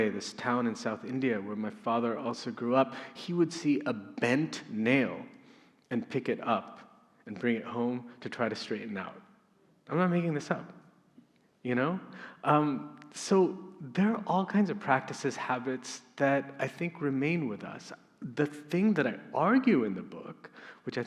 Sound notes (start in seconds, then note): none